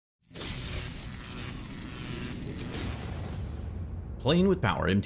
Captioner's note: electricity buzzes